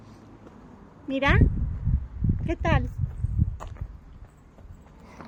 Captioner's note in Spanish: en español